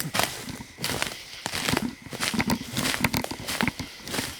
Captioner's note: leaves rustling